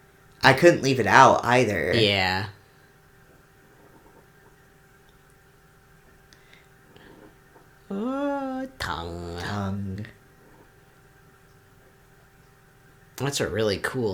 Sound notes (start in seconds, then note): 10.1 laughs